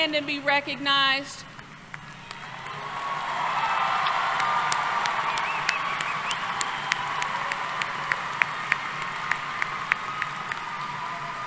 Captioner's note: applause